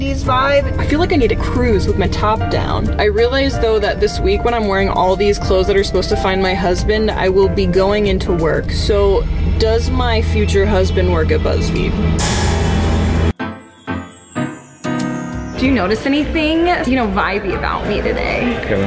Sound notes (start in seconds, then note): 12.2 ominous clash; 13.4 bouncy piano music